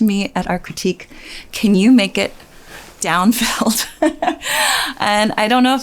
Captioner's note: laughs